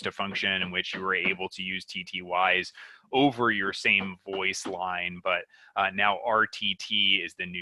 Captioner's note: banging noise